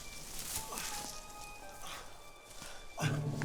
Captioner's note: Cador gasping